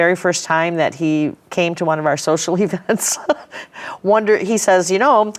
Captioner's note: laughing